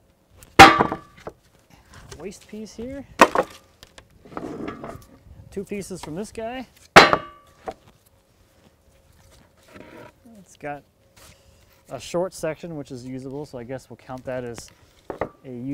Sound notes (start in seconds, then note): 0.6 metal clang; 3.2 wood clattering